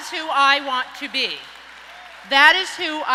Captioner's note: audience applauds and cheers